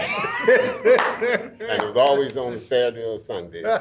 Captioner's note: all laughing